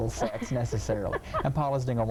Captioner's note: laughing